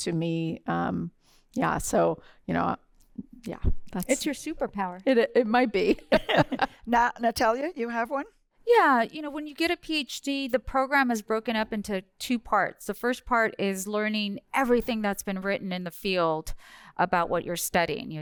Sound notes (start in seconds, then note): 5.8 laughter